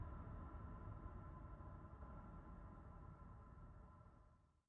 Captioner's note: none